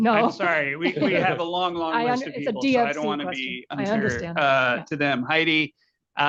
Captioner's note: laughter